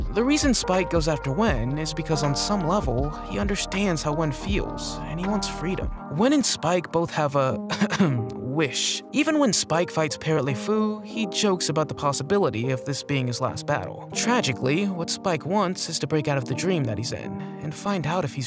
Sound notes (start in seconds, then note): 7.7 cough